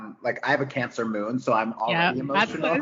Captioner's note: both giggles